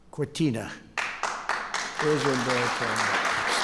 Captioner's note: applause